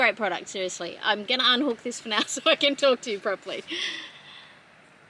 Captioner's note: laughing